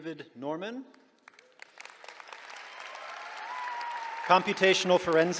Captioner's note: applause